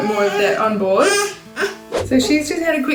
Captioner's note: baby cooing